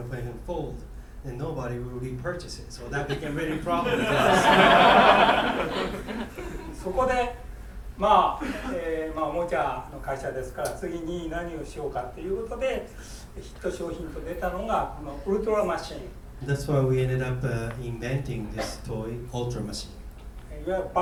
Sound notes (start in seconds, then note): 3.1 students laughing; 6.9 speaking in foreign language; 8.6 coughing; 20.7 speaking in foreign language